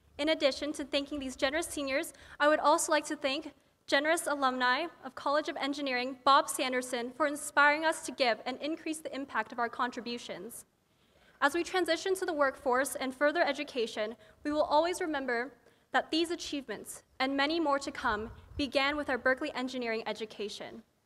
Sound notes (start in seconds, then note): none